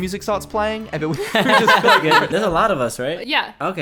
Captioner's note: all laughing